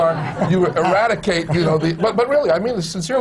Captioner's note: laughter; the coughing